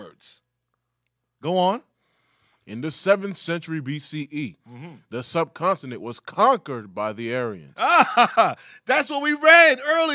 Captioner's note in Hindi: हँसी